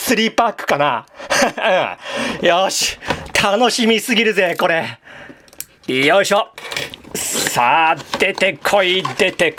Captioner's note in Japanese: 息をのむ音